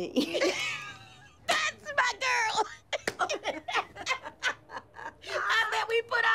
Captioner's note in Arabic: تضحك